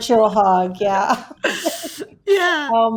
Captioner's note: laughing